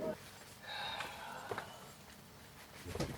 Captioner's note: deep sigh